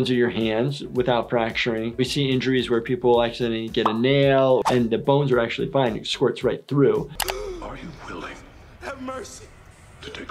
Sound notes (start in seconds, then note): 7.2 person gasps